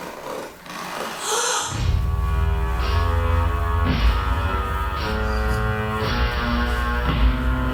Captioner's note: woman gasps; brooding music